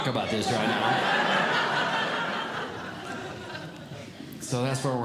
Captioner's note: audience Laughing